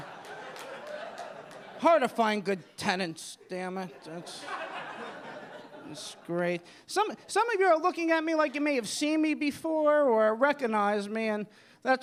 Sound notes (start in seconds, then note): 0.0 audience laughing